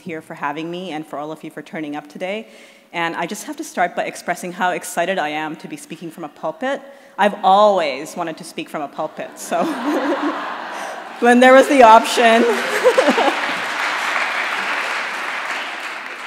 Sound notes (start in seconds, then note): 9.3 laughter in audience; 11.9 laughter and applause continues